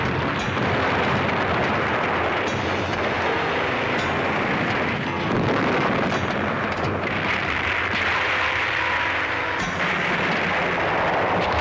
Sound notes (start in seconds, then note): 0.1 explosions blasting; 7.1 heavy artillery booming